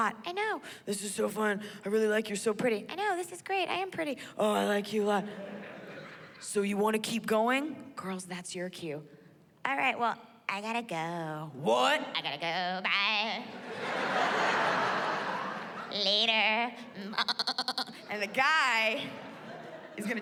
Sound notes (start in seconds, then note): 15.9 mimics baaing